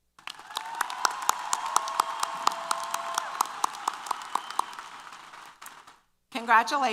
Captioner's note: applause & Cheers